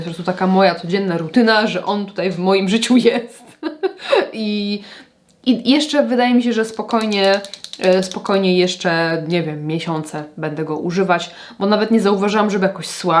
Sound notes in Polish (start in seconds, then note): 3.4 śmiech; 4.6 wciągnięcie powietrza